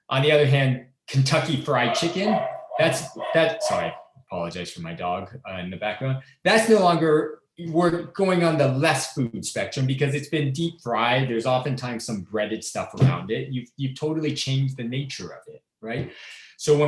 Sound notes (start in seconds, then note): 1.7 dog barking